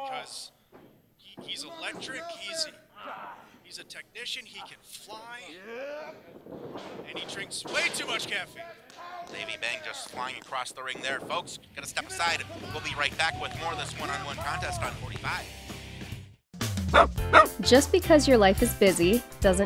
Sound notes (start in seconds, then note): 5.5 grunting; 17.3 dog barking; 18.1 voiceover